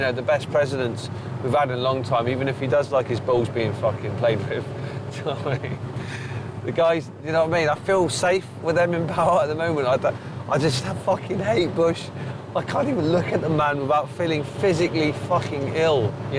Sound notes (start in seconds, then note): 4.9 chuckles